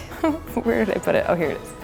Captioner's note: chuckling